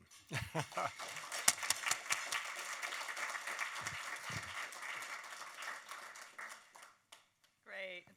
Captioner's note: applause